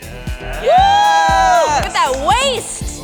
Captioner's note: audience applauds; upbeat music